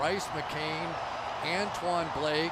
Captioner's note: cheering